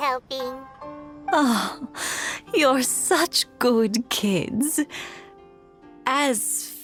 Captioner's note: sigh